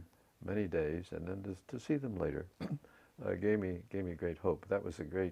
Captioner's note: cough